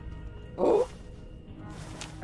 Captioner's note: shocked noises